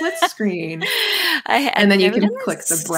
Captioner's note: laughs